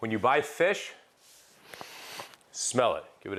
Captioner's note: sniffing